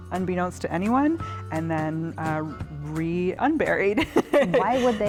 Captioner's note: laughs